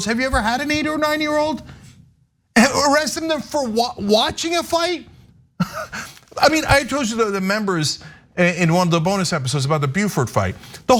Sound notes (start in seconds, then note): 5.6 laugh